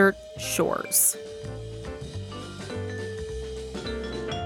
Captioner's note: Soundbite of commercial for Desert Shores